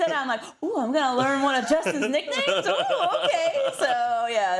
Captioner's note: laugh